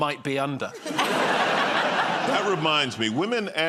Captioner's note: laughter